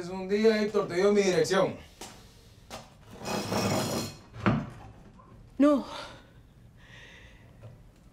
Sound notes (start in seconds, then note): 3.0 scraping